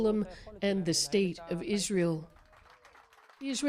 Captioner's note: speaking alternate language